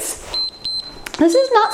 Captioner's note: timer beeps